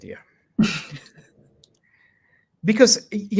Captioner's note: chuckles